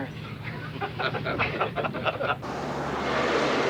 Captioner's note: laughing